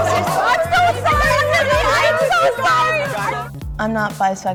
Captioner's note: group chattering